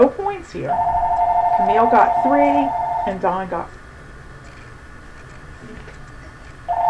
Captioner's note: phone ringing; phone ringing